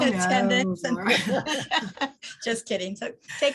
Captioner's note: laughing